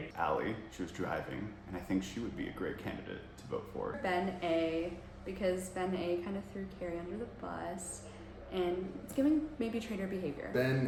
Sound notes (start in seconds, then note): none